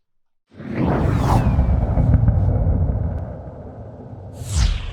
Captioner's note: space rocket whooshing